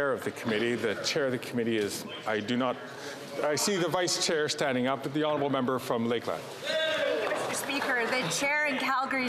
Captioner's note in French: voix de l'interprète